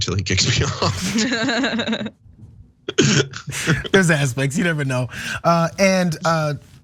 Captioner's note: laugh